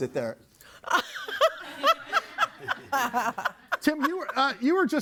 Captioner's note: laughs